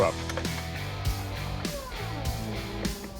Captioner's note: machinery whirring